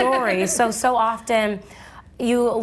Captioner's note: laughing